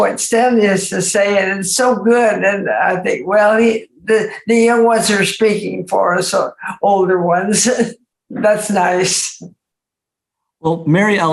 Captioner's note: laughs